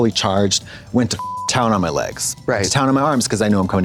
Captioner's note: beep